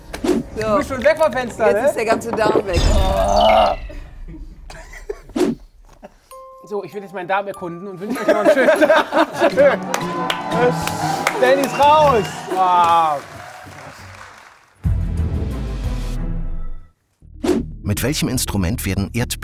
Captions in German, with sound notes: Du bist schon weg vom Fenster, ne? - Jetzt ist der ganze Darm weg. So, ich werd jetzt meinen Darm erkunden und wünsch euch noch einen schönen Tag. Tschüss! (Jubel, Applaus) Benni ist raus! (Spannungsvolle Musik)